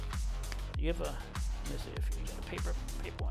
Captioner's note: asphalt clicks